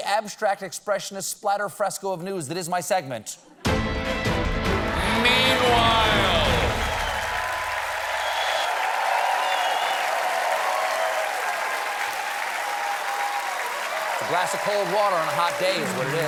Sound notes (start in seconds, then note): 4.6 cheers and applause